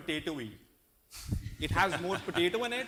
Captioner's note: laughter